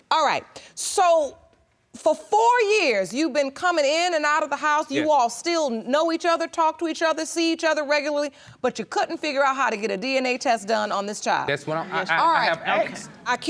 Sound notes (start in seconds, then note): none